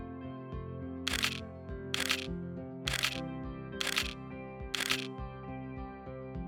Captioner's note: camera clicks